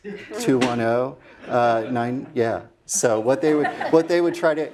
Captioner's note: laugh